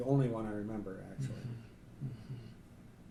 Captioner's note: clears throat